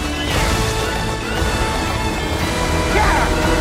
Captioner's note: train horn blaring